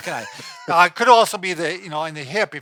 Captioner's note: laughing